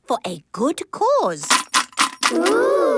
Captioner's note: coins jangling